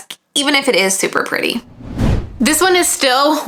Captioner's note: page swishing